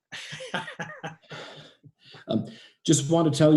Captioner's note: chuckles